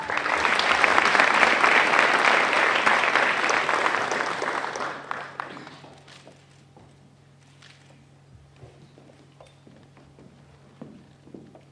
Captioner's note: applause